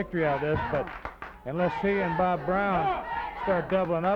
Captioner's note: wrestlers grunting